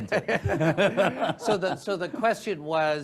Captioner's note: speakers laugh